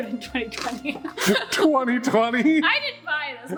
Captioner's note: laugh